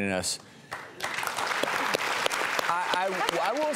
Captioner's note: audience applause